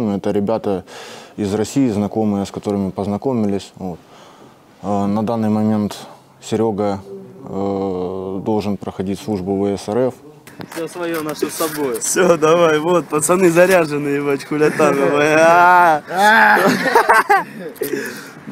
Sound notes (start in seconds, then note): 14.6 roaring and giggling